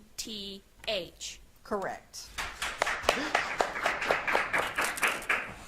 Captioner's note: audience claps